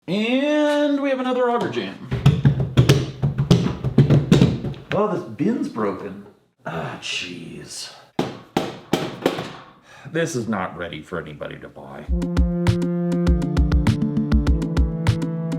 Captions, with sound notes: - And we have another auger jam. (bin rattling) Oh, this bin's broken, ah, geez. (hammer thumping) This is not ready for anybody to buy. (upbeat music)